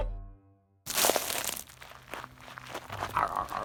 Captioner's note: crunches; laughs